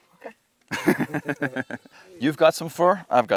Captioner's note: laughing